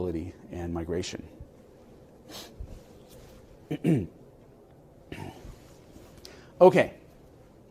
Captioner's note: cough